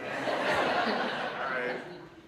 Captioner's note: audience laughs